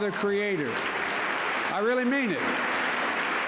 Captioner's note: applause